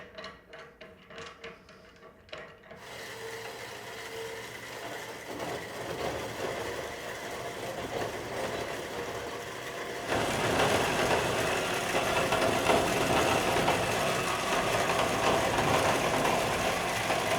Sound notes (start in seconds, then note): 3.1 metal grinding